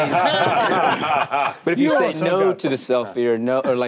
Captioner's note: group laughing